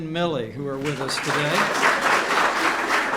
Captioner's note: applause